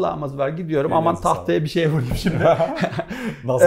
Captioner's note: laughs